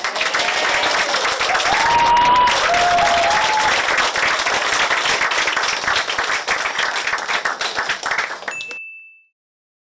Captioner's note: applause; 박수